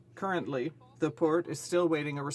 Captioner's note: speaking French